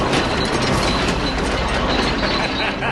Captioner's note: Смее се